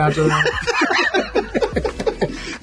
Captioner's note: laughing